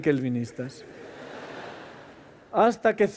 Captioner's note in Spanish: Risas